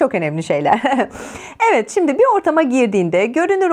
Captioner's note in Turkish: kahkaha